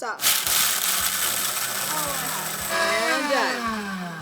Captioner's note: blender starts; blender powers down